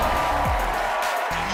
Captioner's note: cheers and applause